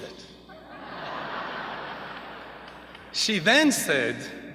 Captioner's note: laughter